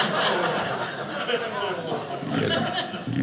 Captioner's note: audience laughing